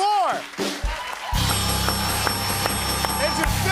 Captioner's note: dinging